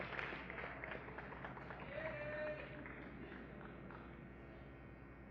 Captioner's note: applause